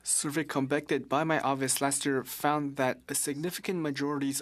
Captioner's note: speaking French